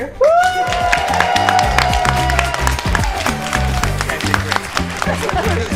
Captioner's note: upbeat music; applause